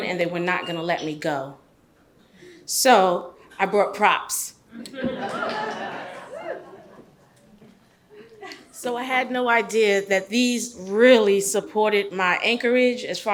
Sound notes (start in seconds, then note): 4.8 audience laughs